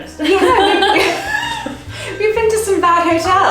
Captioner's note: both laughing